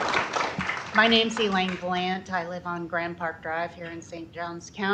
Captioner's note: applause